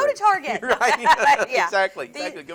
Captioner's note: both laugh